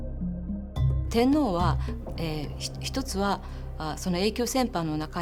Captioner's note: speaking in Japanese